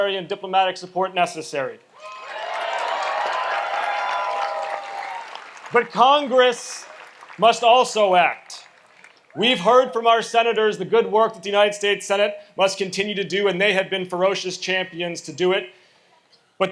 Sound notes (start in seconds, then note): 2.0 audience applauds and cheers